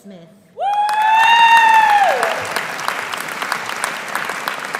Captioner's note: audience applauding